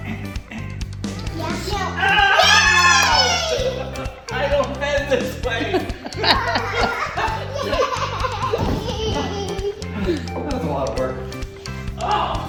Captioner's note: grunt noise